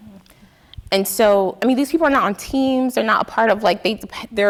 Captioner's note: none